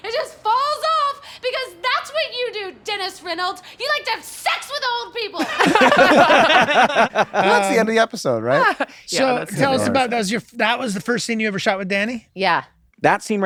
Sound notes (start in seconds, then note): 5.4 laughter